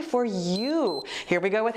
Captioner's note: timer beeps